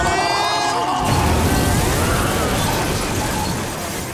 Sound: crashing

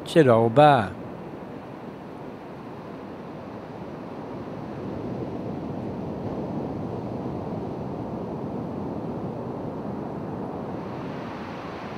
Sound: beach sounds

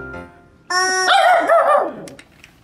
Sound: squawking; roaring

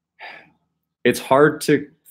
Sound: sighs

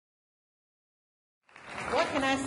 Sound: applause

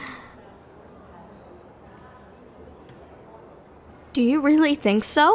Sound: soft laugh

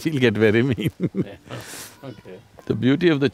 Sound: laughs

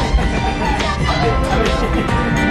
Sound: upbeat music; laughs

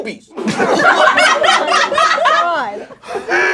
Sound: laughing

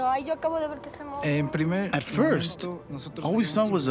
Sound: speaking spanish

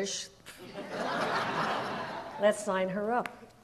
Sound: audience laughs

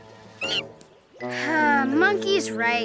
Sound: monkey squeaks; sighs

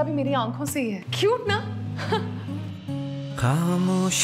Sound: chuckles

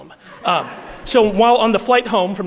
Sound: audience laughing

